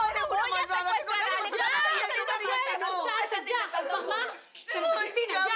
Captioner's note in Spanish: Discusión a gritos